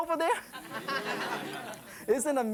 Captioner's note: audience laughing